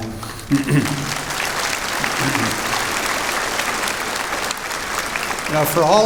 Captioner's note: applause